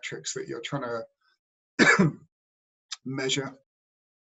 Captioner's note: cough